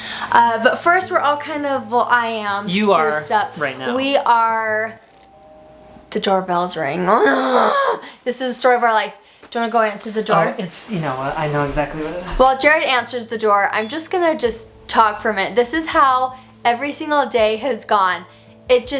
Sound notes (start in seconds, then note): 4.7 doorbell ringing; 7.1 groans